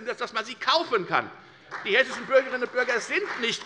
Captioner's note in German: Beifall bei der FDP und bei Abgeordneten der SPD